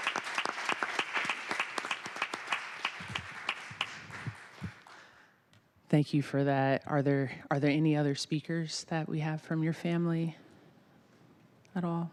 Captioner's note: applause